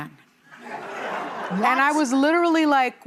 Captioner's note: audience laughing